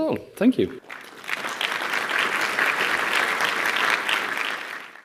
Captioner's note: applause